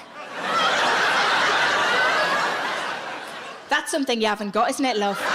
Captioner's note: audience laughs